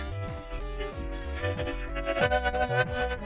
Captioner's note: laughing manically